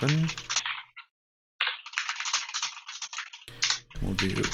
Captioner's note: keyboard keys clanking